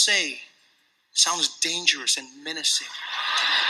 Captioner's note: laughter